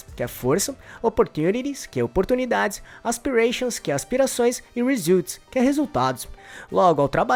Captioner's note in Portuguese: aspirações